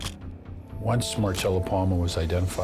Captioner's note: camera shutter click